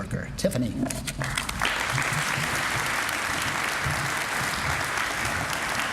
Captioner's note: applause